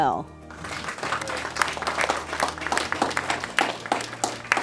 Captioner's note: applause